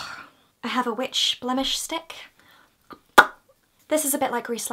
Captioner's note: makes a pop noise